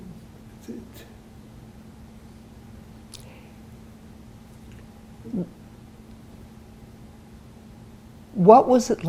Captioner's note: pauses 6 seconds